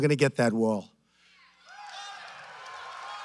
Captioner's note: applause